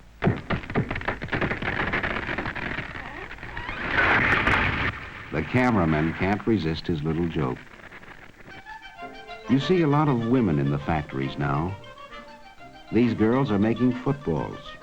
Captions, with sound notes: (tree crashing) The cameraman can't resist his little joke. (upbeat orchestral music) You see a lot of women in the factories now. These girls are making footballs.